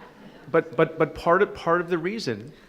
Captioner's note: laughter